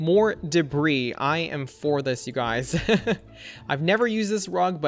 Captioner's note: laughs